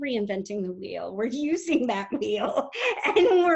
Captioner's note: laughs